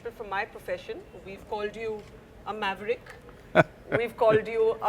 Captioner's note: Sadhguru laughs